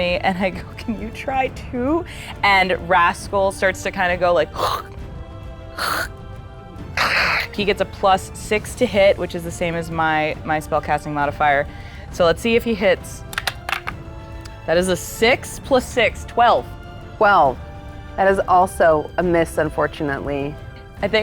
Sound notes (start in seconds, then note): 6.9 rasps; 13.3 die rattling